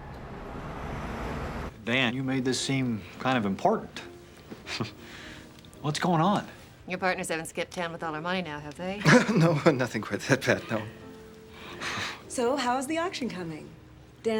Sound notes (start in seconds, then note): 4.7 chuckles; 9.0 laughs; 11.0 both chuckle